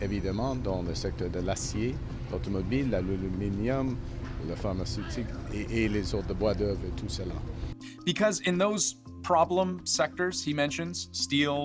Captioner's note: speaking French